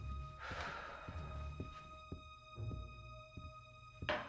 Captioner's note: Hope sighing